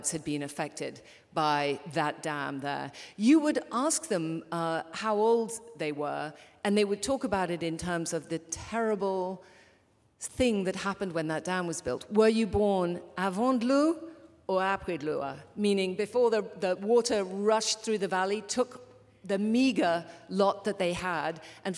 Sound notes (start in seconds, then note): 13.4 non-english speech